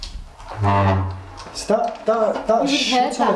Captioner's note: scraping noise